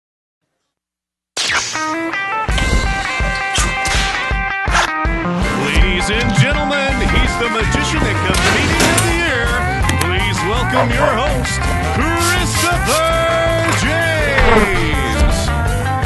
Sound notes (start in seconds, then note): 1.6 surf rock music; 10.7 dog barks